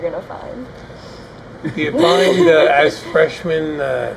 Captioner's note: laughing